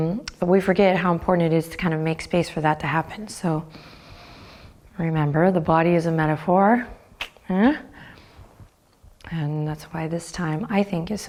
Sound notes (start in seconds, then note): 7.2 clicks tongue